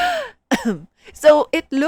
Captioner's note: ahem